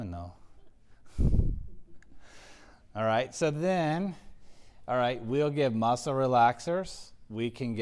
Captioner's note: laugh